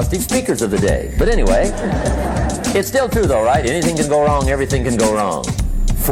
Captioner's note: laughter